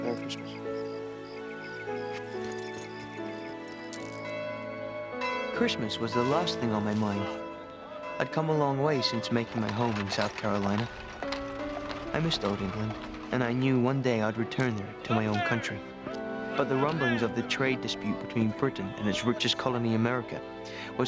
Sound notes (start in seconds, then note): 0.9 gentle music; 4.4 bell ringing